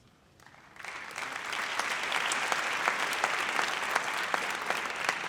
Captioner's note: audience applauds